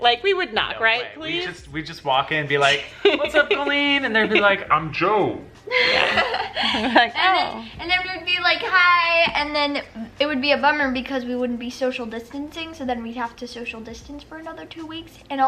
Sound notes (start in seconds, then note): 5.7 laughing